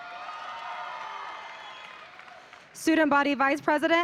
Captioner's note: audience applauding